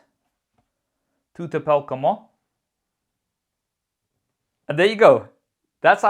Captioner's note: speaking French